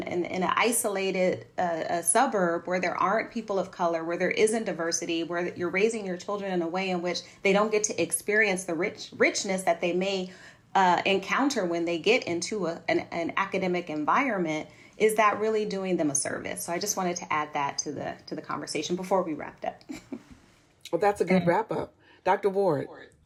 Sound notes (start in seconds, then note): 19.8 laughter